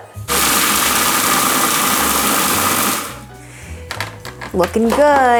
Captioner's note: blender whirs